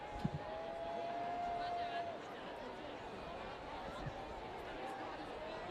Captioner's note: students cheering and screaming